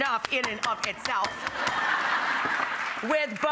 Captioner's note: hammer pounding; audience laughing